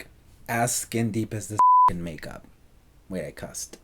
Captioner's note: beeps